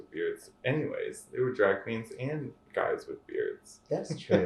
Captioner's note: laughter